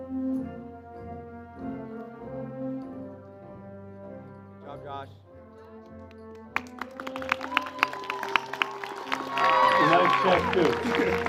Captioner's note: cheers and Applause